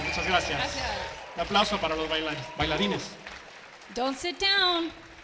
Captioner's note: attendees clap and cheer; speaking in Spanish; attendees clapping